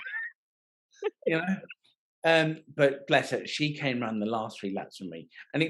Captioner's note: laughing